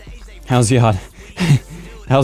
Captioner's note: chuckles